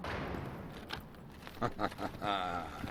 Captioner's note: laughing